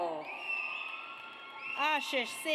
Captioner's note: audience cheers